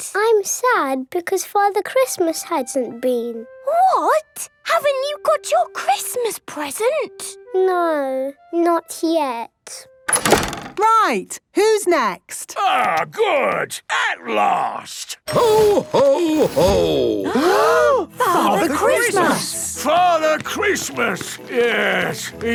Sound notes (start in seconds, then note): 10.1 doors slamming